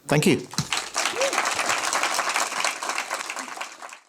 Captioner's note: clapping